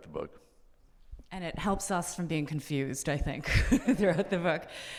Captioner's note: laughs